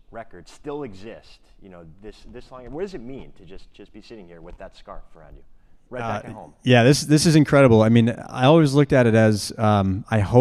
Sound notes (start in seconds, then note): none